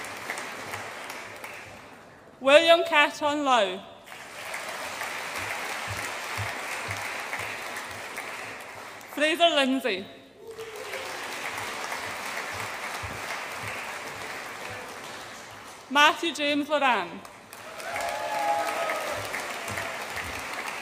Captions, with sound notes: William Ka Chun Lau. (AUDIENCE APPLAUDS) Fraser Lindsay. (AUDIENCE APPLAUDS) Mathew James Loran. (AUDIENCE APPLAUDS AND CHEERS)